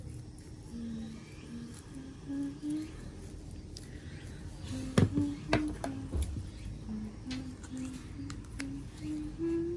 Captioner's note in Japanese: 鼻歌